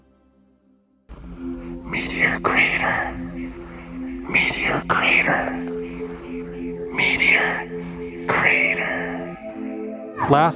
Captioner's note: echoing whisper